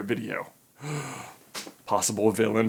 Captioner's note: gasp